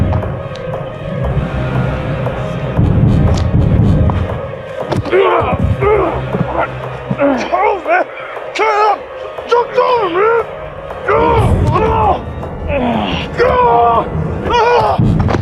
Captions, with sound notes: (both grunt) Charles, man, cut it out! Joke is over, man! (grunts)